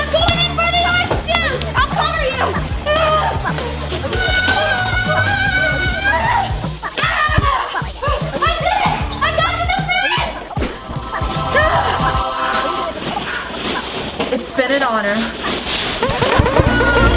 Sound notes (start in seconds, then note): 3.1 sisters shouting; 16.0 germs ploinking